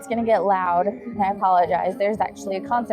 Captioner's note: chattering